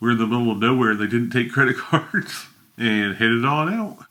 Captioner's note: laughs